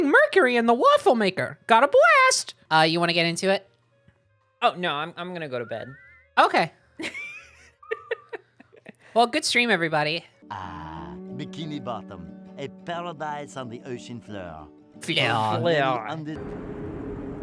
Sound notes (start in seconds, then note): 7.0 laughing; 14.9 in exaggerated French accent